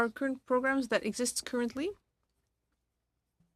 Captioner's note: speaking French